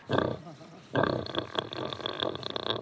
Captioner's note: pig grunting